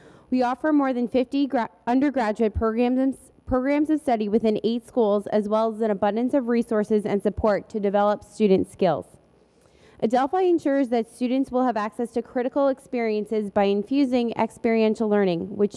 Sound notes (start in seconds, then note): none